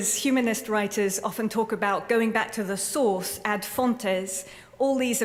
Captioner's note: non-english